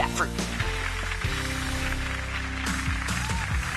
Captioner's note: clapping